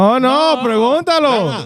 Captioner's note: speaking In Foreign Language